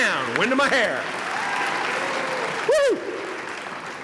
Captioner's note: applause